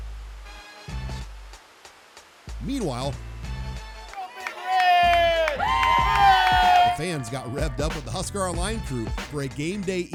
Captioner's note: cheers